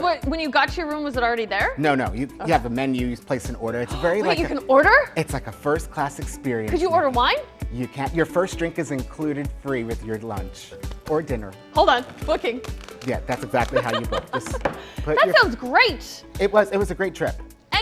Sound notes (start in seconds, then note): 12.6 fingers tapping